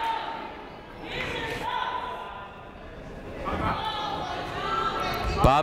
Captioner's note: people shouting in the crowd